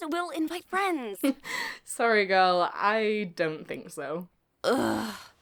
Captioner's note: chuckles